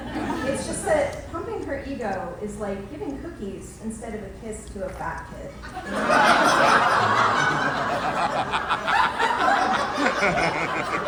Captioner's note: laughter